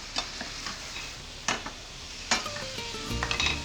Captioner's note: sizzling